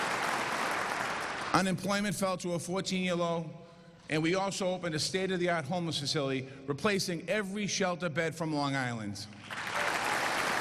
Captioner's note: applause